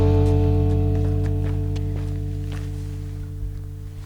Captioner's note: clanking; footsteps